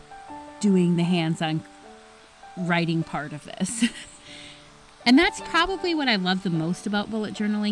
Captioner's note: laugh